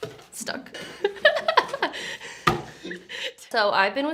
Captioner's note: laughs